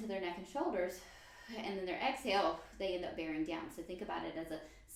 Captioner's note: inhale; exhale